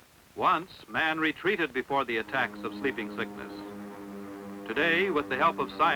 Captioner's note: airplane engine roar